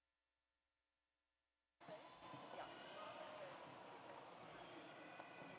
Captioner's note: none